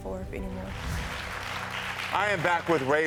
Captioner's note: audience applaud